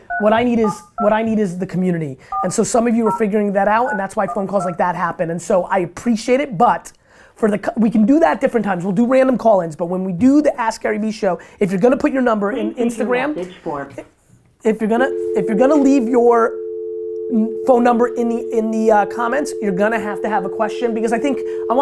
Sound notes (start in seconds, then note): 13.4 automated Voice